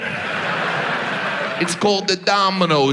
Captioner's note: audience laughs